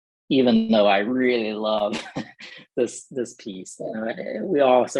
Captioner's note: laughter